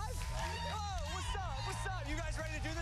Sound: cheers and applause

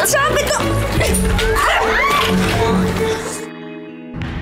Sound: grunting, screaming

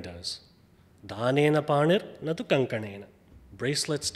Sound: speaks foreign language

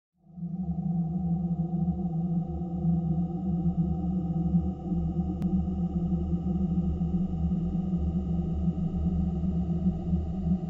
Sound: sound of creepy cavern

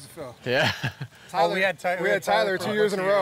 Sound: chuckling

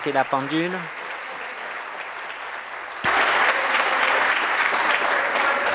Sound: applause; cheering

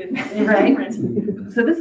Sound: audience laughing

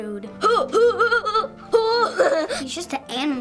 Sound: laughing

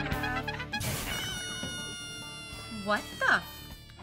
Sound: sound of Balloon deflating

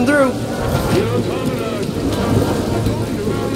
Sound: alian language

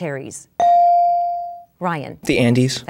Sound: dinging

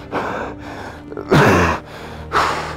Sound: coughing

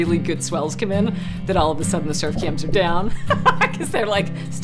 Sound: laughs

